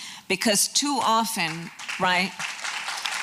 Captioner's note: applause